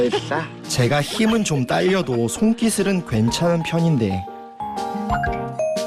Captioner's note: snicker